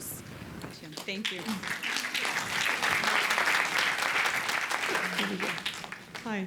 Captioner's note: applause